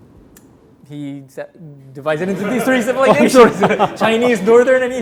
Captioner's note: speaking in Korean; laughs